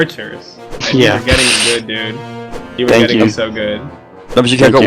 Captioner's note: laughs